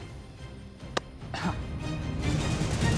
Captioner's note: laughs